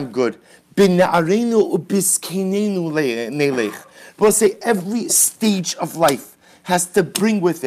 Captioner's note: Hebrew